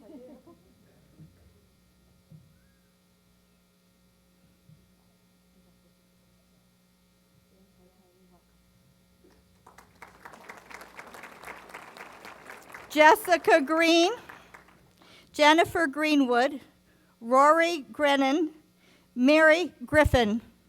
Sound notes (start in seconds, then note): 9.3 applause